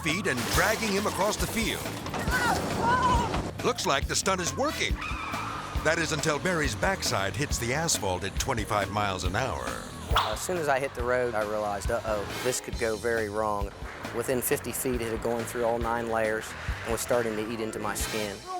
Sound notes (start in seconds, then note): 2.3 shouting and grunting; 5.1 tires skidding